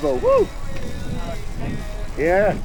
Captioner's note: pat